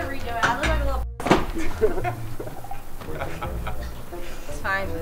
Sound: laughter

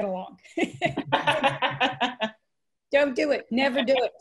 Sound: laughter

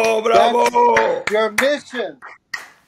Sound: clapping

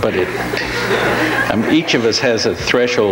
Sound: audience laughs

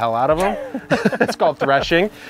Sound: laughing

